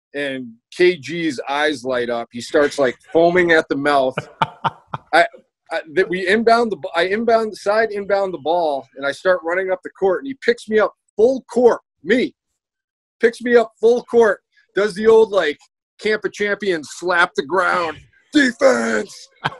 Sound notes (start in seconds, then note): 4.0 laughs